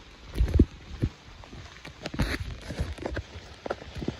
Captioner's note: walking through wet leaves